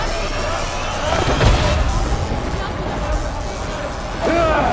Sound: grunting

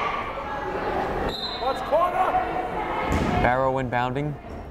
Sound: whistle blows

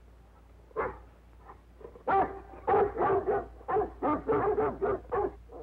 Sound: barking

